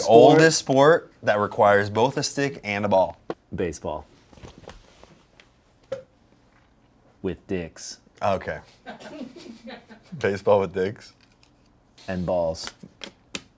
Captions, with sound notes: - The oldest sport that requires both a stick and a ball. - Baseball. With dicks. - Okay. (crew laughs) Baseball with dicks? - And balls.